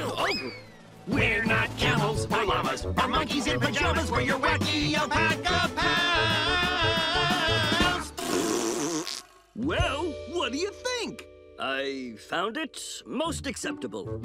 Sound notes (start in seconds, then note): 6.7 blowing raspberries